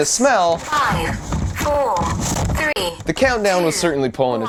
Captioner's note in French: Voix robotique